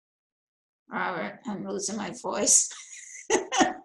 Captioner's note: laughing